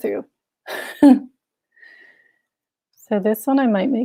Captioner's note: chuckles